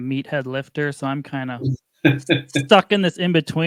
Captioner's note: laughs